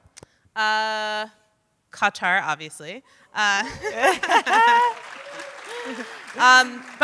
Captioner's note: audience applauding